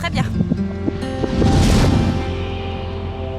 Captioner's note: whooshing